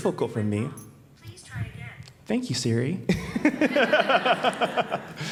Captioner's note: Siri voice in background